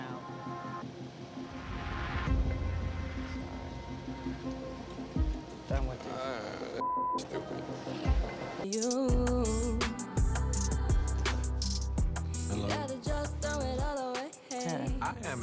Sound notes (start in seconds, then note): 6.8 beep